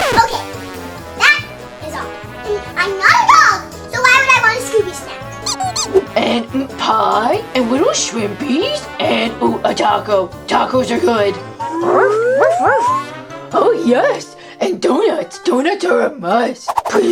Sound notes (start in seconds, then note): 12.4 dog barking